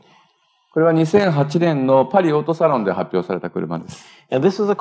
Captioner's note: speaking japanese